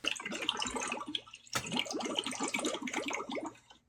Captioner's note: water churns